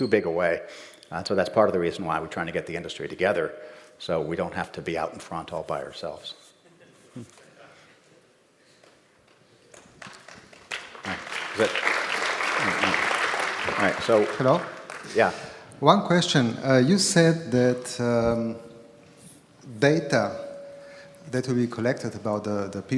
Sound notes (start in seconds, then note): 6.6 laughter; 9.8 applause